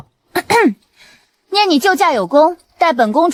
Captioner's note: cough